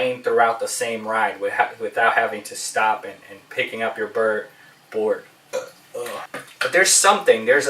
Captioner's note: burp